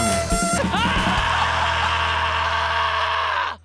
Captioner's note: screams